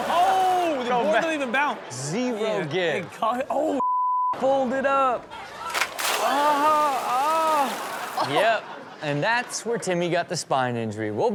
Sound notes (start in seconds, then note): 6.3 groans loudly